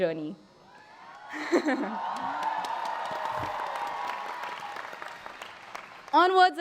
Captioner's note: applause